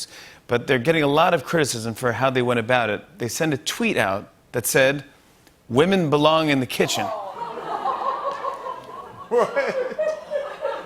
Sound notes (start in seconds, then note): 7.0 laughter